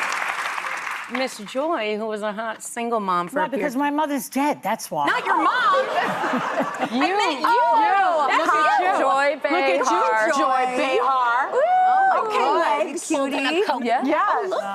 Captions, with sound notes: (audience applauding) - Mr. Joy, who was a single mom for a year. - For that because my mother's dead, that's why. - Not your mom. (laughing) - You are. - You are. - That's how Joy Bay is. - Look at Joy Bay. - Joy Bay. - Joy Bay. - Joy Bay. - Oh, okay. - Joy Bay. - Joy Bay. - That's how she looks.